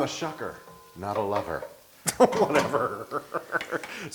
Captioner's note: laugh